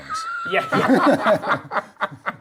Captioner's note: laughing